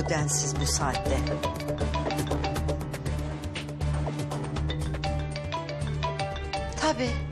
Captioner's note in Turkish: Telefon çalması